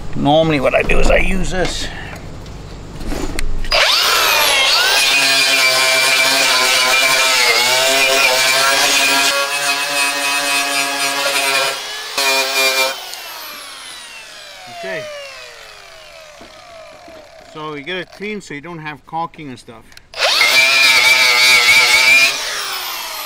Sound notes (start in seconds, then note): 3.8 grinder turns on; 13.2 grinder clicks off, winds down; 20.1 grinder turns on